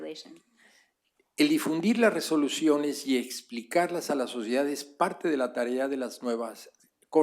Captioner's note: spanish